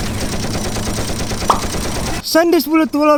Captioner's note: pop! *҉